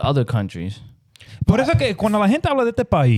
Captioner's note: speaking In Foreign Language